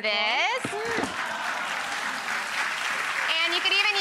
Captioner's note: applause